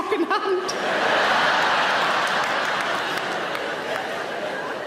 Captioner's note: audience laughing